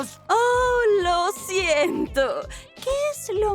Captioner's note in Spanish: Sarcásticamente